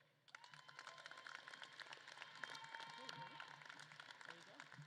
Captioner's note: audience claps and cheers